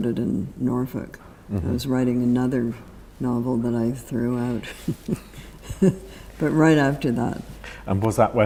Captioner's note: laughs